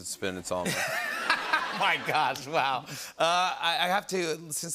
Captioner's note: laughter